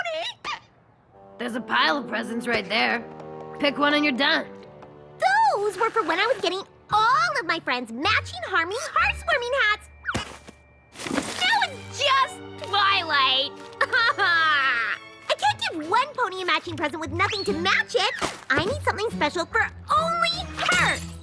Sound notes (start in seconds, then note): 13.8 sobs